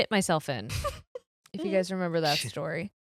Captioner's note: laughing